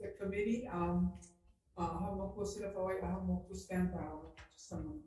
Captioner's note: speaking foreign language